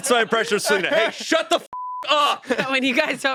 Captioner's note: beep